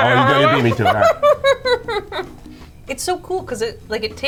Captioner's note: laughing